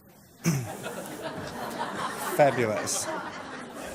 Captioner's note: laughs